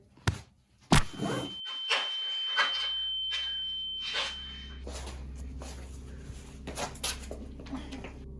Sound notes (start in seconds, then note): 0.0 punching sounds; 1.0 high pitched ringing